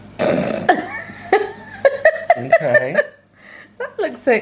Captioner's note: laughing